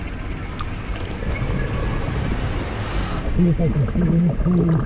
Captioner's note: water bubbling